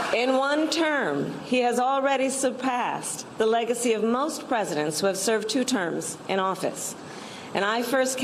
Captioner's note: applause